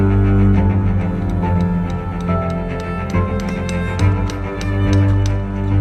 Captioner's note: stone chiseling